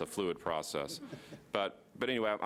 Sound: audience laughing lightly

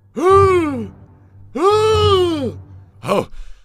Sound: gasp; extended gasp

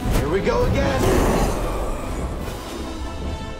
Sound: roar

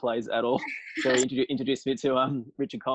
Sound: chuckles offscreen

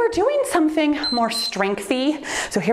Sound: timer beeps

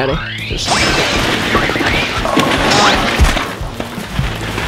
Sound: cartoon crashing

